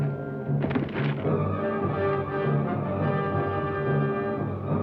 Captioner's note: distant thuds